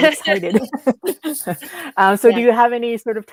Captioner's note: speakers laughing